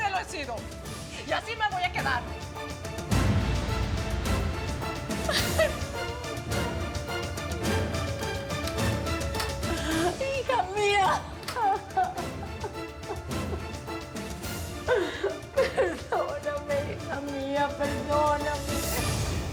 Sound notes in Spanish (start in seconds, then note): 14.8 Sollozos